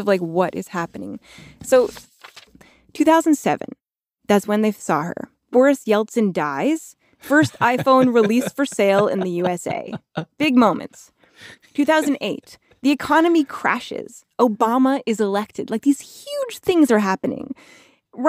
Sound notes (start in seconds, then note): 7.2 laughs